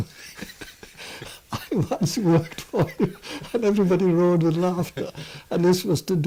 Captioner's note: laughs